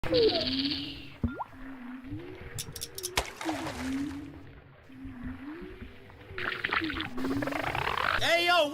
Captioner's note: fishing sounds